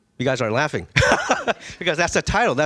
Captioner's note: laughing